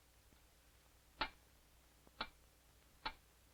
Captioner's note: lone ticking noise